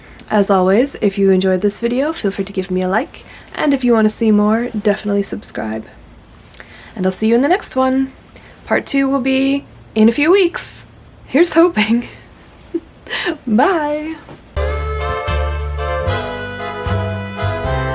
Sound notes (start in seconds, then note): 13.4 laughs; 14.6 sultry jazzy outro music